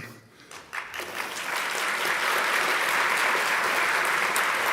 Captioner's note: audience clapping